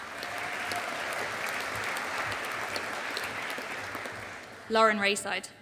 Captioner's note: audience applauding